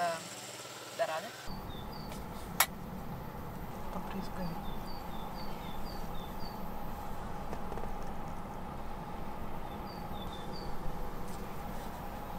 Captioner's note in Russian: птички поют на улице